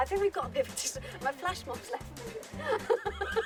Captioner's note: laughter